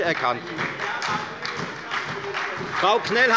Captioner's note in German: Beifall bei der FDP und der SPD